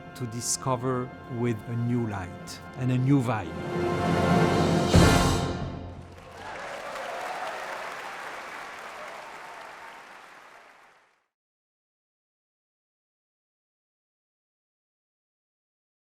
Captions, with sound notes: to discover with a new light, and a new vibe. (audience applauding)